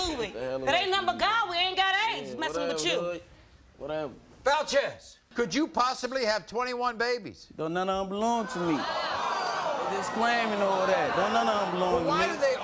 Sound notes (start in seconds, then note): 8.5 audience vocalizing